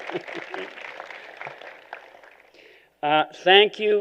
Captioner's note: applause